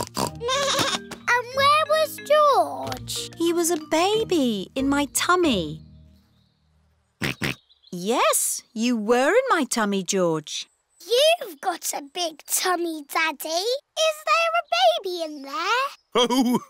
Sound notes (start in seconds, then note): 0.0 snorts; 0.4 bleats; 7.6 snorts